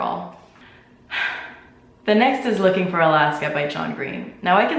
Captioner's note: sigh